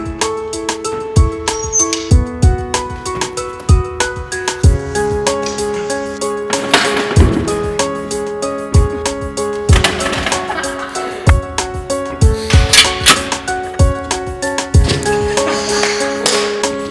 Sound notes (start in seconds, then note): 10.3 laughter; 15.9 clap